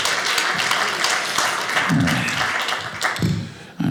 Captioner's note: audience applauding